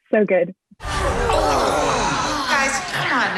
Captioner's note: people grunting